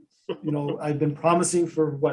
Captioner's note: laughs